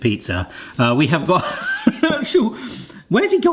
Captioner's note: laughing